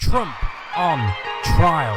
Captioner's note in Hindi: तालियां